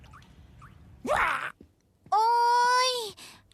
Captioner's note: shrieks